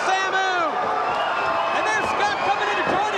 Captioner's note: audience cheers